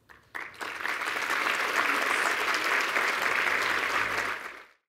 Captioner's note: applause